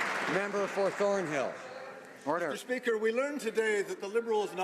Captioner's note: some Applause